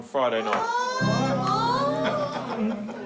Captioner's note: all exclaim